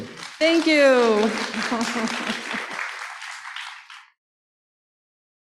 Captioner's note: applause